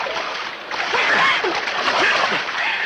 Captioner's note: screams